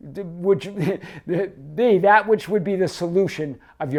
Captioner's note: chuckles